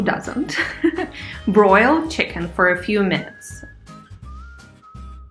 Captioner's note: laughs